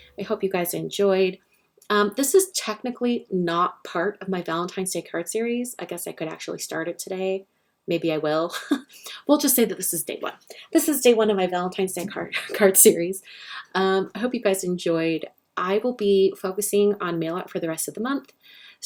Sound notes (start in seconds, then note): 8.5 laughs